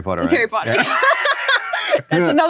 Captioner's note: laughs